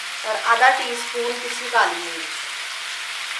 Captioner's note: crushed